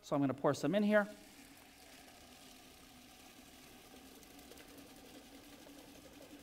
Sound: pouring

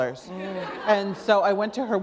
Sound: laughter

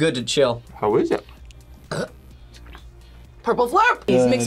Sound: burps

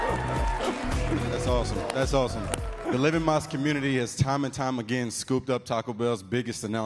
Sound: cheers and applause

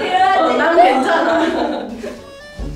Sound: mmm

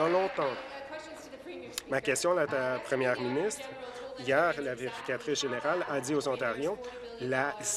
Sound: applause

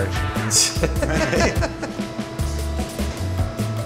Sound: laughter

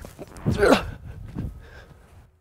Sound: grunts

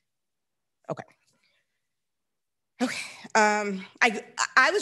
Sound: sighs

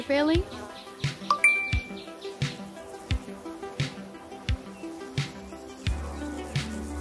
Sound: lively music; notification dinging

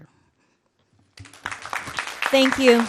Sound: audience clapping

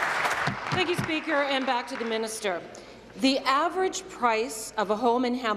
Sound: applause

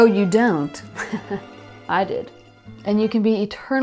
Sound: laughing

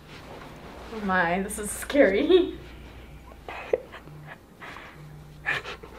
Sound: laughs

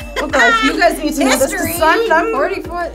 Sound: laughs

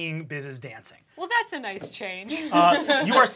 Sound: laughs

